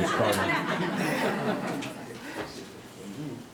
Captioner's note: all laughs